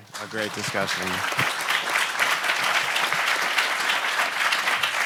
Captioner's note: audience applauds